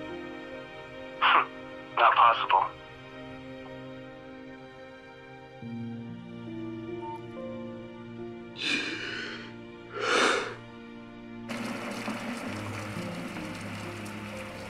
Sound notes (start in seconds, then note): 8.6 shuddered breath; 11.5 coffee dripping